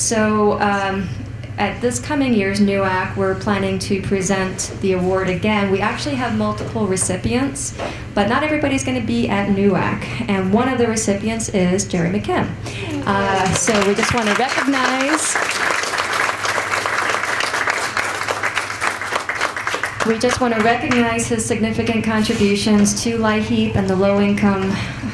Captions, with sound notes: So at this coming year's NUAC we're planning to present the award again. We actually have multiple recipients. But not everybody is going to be at NUAC. And one of the recipients is Jerry McKim. So we just want to recognize -- (Applause). >> We just want to recognize his significant contributions to LIHEAP and the low income